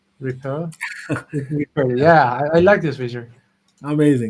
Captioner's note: laughs